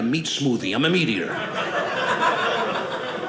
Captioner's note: audience laughing